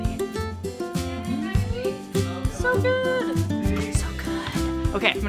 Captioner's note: whispers